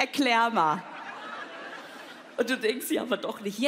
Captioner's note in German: Lachen